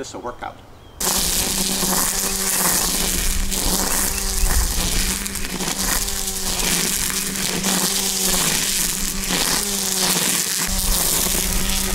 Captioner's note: sounds of a motor running